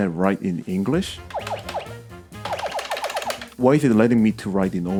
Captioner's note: noisy keypress sound effect and actual key sounds